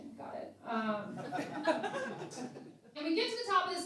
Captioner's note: laughing